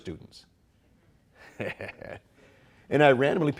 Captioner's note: chuckling